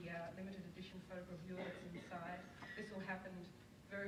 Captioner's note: audience member coughs